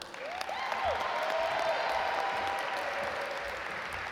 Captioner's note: audience applaud